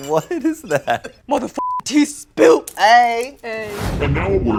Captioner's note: beep